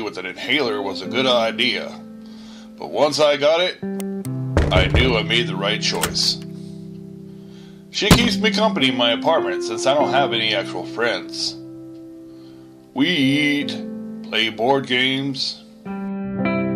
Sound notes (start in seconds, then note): 4.6 knocking Sounds; 5.9 door Squeaks Open & Closed